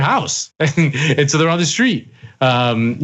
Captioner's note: laugh